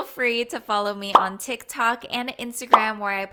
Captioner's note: bubble popping